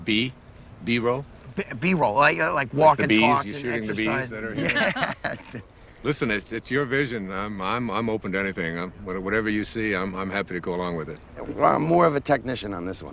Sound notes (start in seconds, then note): 2.7 Bees